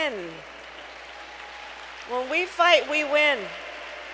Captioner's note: applause